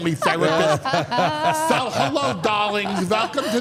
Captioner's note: laugh